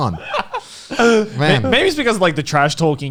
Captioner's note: laughing